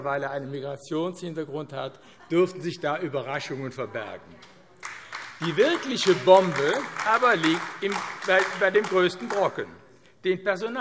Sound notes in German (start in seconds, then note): 4.8 Beifall AfD